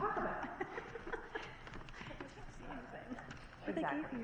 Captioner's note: laughter; teenagers whispering